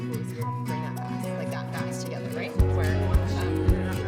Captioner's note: people chattering